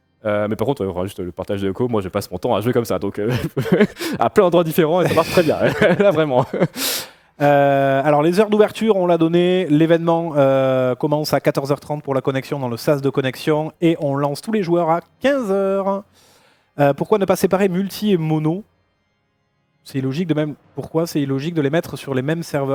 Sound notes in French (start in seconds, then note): 3.2 rires; 7.2 grognement